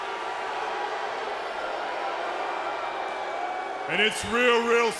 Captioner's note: crowd cheering